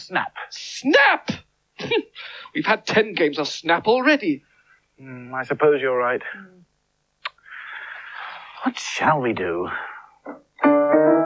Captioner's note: both Sigh